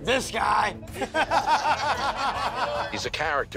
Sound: guys laugh

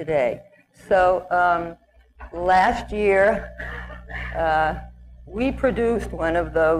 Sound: ahem

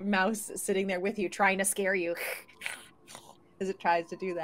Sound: hisses

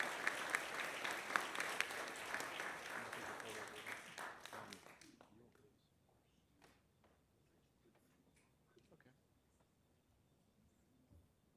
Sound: applause

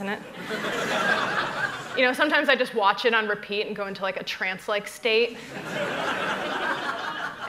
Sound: laughter

